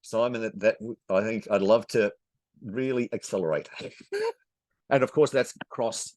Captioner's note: chuckles